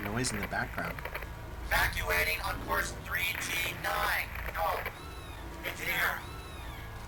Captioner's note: radio voice